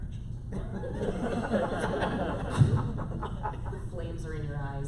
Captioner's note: laughter